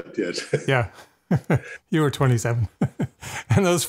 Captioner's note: laughs